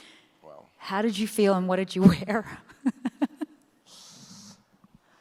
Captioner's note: chuckles